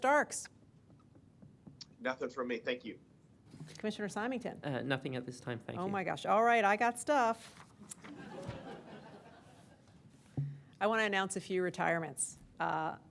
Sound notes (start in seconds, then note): 8.0 laughter